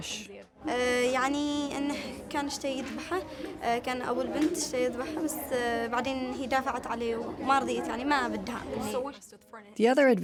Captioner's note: speaking Arabic